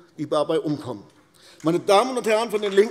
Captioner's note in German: Beifall AfD